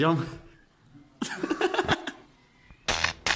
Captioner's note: laughing jackal